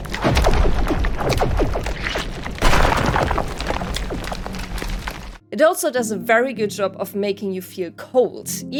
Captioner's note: more sounds of ice wreaking havoc